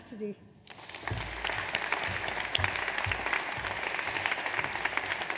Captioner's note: audience applauds